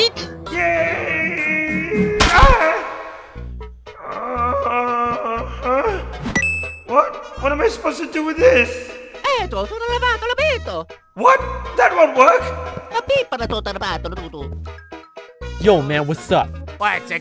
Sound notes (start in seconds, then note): 3.9 moaning